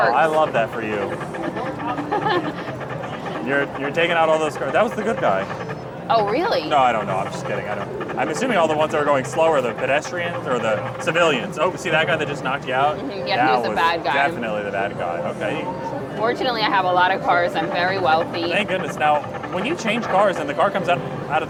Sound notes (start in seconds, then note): 1.8 chuckles